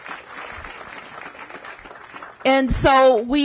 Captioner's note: applause